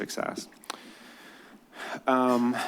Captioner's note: sigh